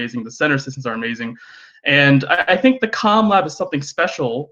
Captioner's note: none